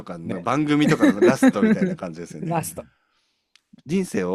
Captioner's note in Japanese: 笑い